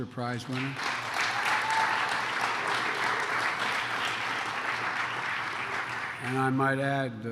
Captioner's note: applause